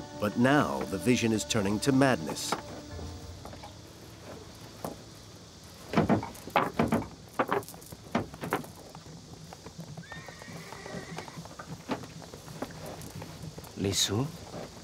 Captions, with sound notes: But now the vision is turning to madness. (horse whinnying) - Li Si?